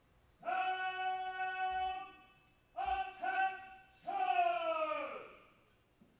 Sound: marine shouting orders; bugle call

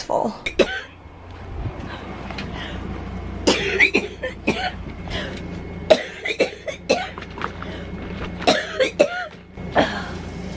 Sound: coughing

